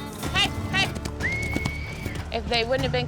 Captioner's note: whistling